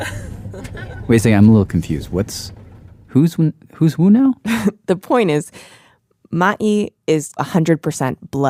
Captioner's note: laughs